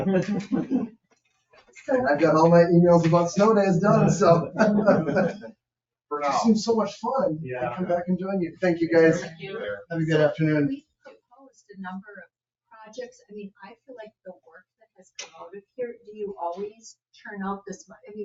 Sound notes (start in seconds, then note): 3.6 chuckles